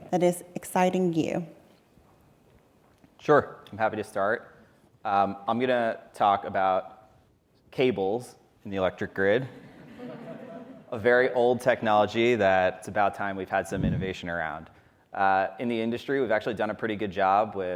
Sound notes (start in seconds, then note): 9.6 audience laughing